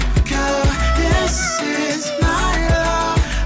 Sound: deep female voice

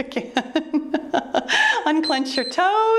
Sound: laughs; timer beeps

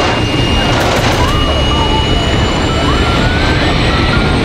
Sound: plane rumbling

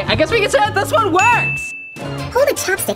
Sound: bell rings

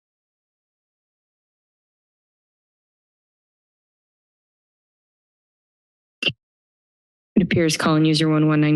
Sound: silence

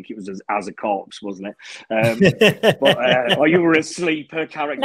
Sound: group laughing

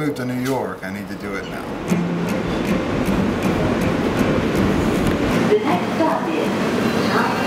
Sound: subway announcement

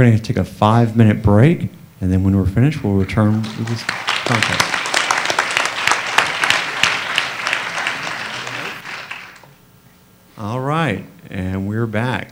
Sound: applause

